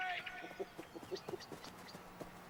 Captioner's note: Riéndose